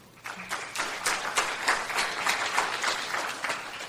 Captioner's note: applause